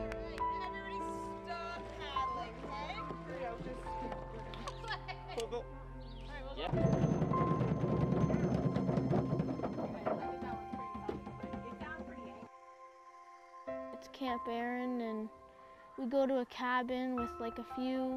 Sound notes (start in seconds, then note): 4.4 laughing; 6.7 pounding